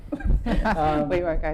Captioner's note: laughing